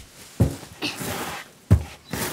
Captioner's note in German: Ächzen